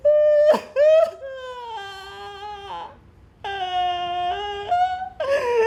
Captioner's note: crying